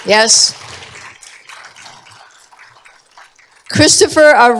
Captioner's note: applause